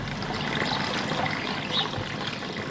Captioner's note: splashing